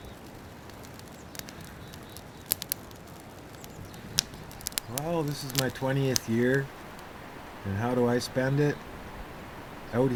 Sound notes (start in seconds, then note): 0.6 fire crackling